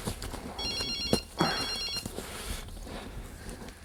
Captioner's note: phone ringing